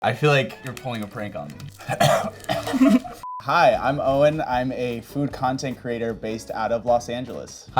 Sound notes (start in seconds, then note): 1.8 coughing